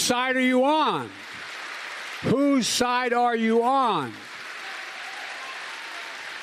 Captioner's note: applause